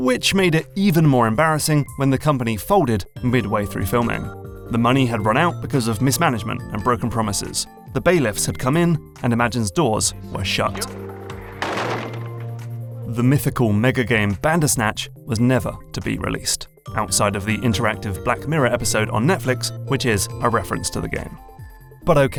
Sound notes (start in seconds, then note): 10.7 door slams